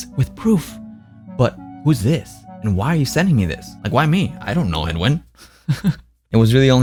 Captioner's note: laughs